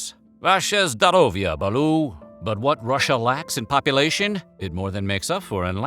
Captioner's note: speaking russian